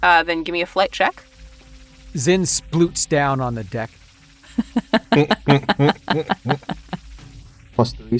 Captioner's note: chuckle